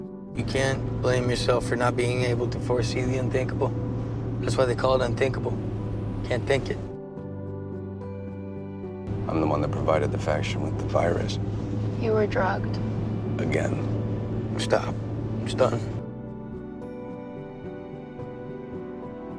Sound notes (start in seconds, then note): 9.5 voiceover